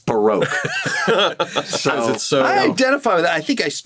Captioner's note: all chuckle